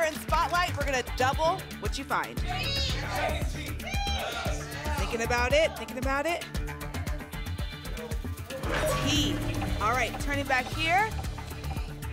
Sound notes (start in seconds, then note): 2.5 audience shouting letters